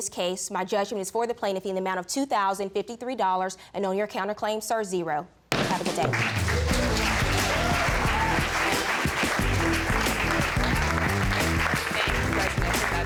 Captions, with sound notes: In this case, my judgment is for the plaintiff in the amount of $2,053. And on your counterclaim, sir, zero. (BANGS GAVEL) Have a good day. (AUDIENCE APPLAUDS)